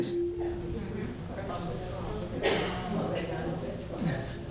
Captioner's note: audience talking